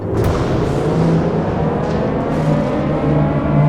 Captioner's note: air Raid Sirens